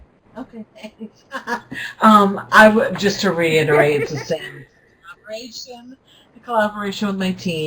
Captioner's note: laughs